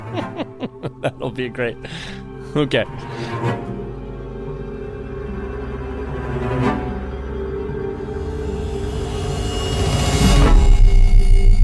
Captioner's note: laughs